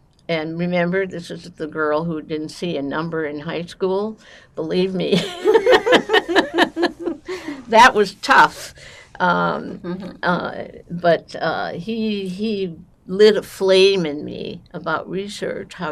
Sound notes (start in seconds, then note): 5.2 laughing